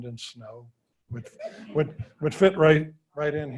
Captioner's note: audience laughing